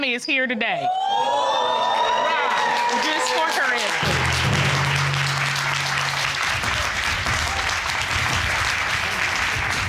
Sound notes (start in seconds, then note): 1.7 audience cheering